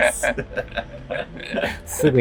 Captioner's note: laughing